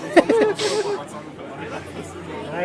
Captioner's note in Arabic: يضحك